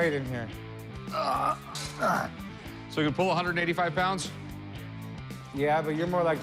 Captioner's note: grunting